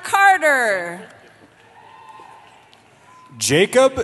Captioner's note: cheering